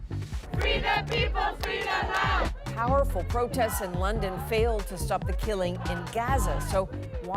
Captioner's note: chanting